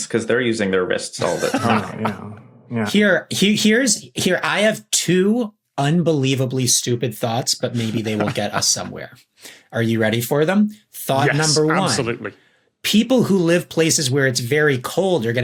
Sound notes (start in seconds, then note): 1.2 laughs